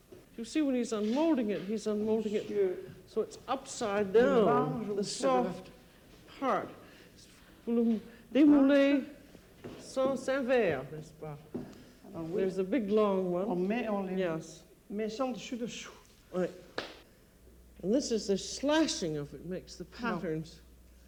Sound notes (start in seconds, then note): 7.0 speaking French; 13.4 speaking French